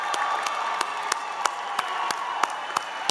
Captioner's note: applause